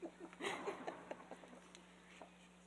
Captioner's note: laughing